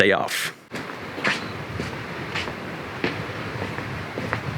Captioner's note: footsteps